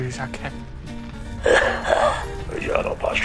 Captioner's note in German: Keuchen